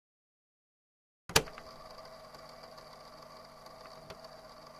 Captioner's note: tape recorder starts